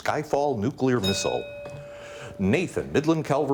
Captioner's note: bell dings